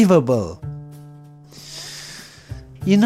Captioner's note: inhales